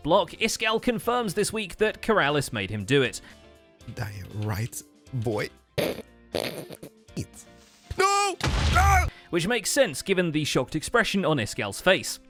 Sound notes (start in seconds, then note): 6.4 snickers; 8.4 explosion